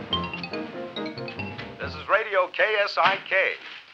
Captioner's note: radio Announcer